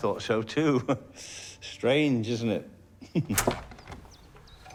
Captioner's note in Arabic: يضحك; ضحكة مكتومة